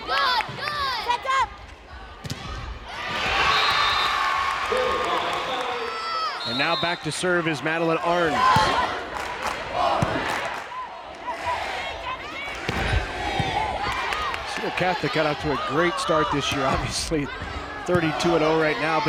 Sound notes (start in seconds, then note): 0.2 crowd and players cheering; 9.5 crowd chanting